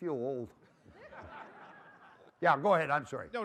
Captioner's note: laughter